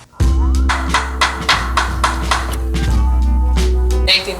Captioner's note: sounds of hammering